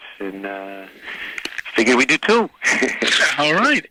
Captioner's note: laughing